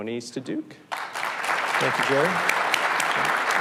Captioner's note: audience applauds